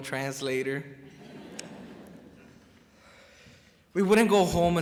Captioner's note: crowd chuckles